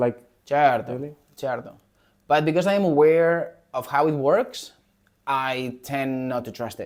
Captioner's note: Spanish